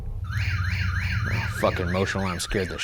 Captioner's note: motion alarm beeping